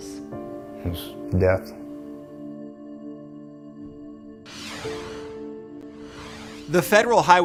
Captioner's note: air whooshes; light music